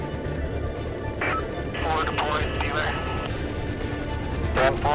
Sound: radio chatter; helicopter whirring

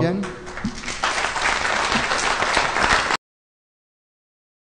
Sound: applause

